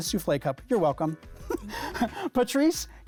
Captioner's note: laughs